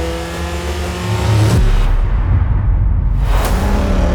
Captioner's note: car engine roaring; scene whooshing; car engine roaring